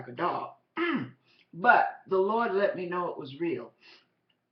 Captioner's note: clear throat